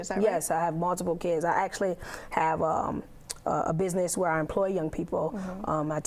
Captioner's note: yawn